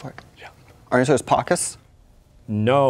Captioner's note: whispering